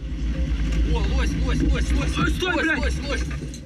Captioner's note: non-english speech